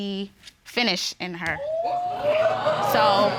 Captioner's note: audience exclaiming